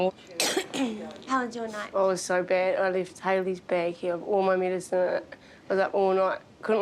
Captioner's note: coughs